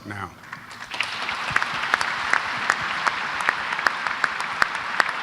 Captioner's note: applause